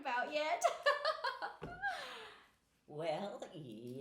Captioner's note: laughing